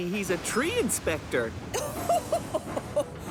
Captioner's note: laughs